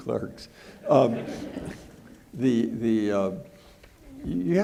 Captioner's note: audience laughing